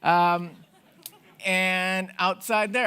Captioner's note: audience laughing